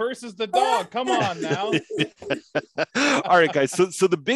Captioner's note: laughs